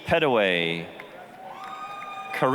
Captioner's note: applause, cheering